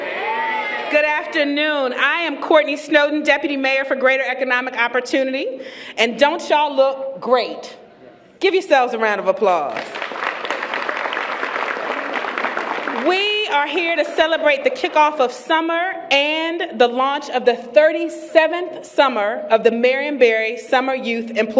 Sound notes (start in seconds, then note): 9.7 applause